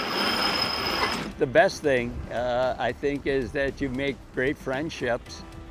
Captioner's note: sail mechanism clangs